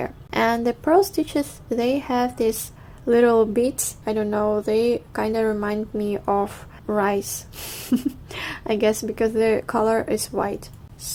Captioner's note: laughs in asian